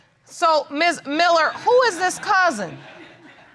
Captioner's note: audience laughs